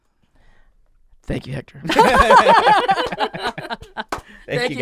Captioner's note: laughs